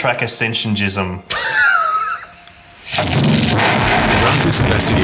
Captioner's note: laughs